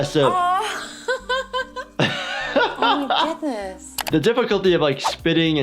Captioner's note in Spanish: riendo; risas